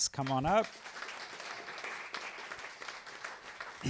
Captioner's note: applause